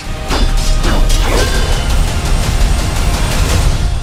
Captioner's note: swords clattering